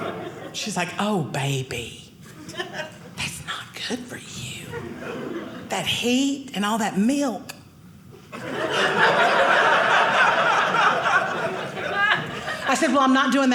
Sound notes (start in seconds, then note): 8.2 audience laughing